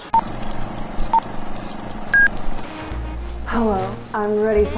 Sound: screen beeping

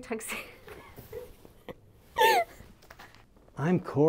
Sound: laughing

